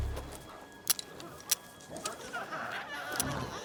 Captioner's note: rocket launcher clicking; glowzies growling